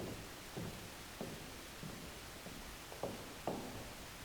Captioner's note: heels clacking